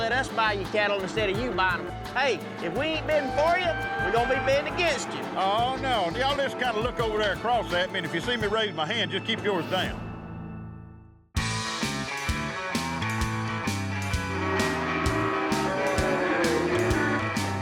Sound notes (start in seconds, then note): 14.1 cattle mooing